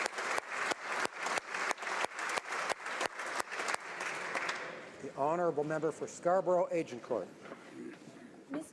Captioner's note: applause